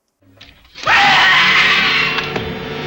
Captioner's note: man screams